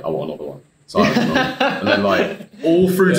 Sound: laughing

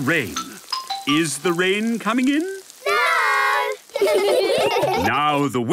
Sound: laughter

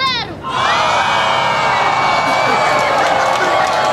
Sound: crowd cheers

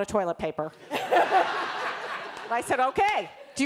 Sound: laughter

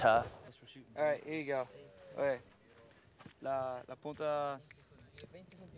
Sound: speaking in a foreign language

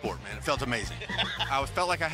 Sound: laughs

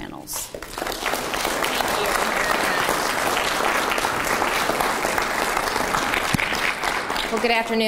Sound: crowd applause

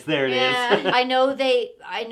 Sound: laughing

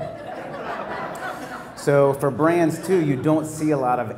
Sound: laugh

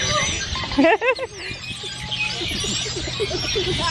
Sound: laughs

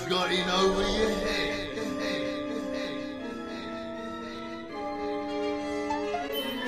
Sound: echoes

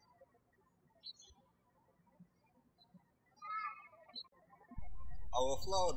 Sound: birds chirping

